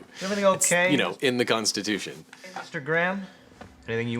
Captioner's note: none